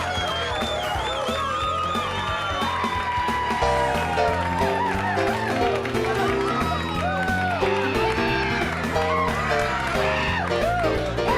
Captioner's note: crowd cheering